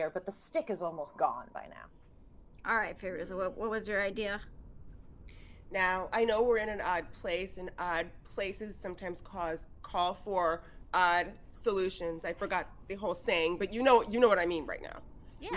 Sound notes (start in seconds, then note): none